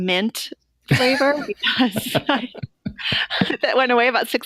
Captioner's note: laughter